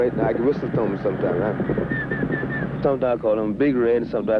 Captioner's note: whistles